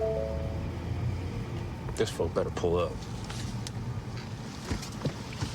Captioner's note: chiming